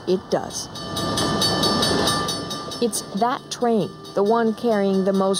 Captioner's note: train bell tolls